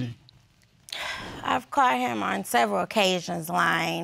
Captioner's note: sighs